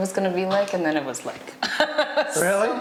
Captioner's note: lady laughs